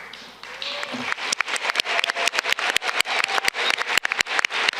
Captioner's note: audience clapping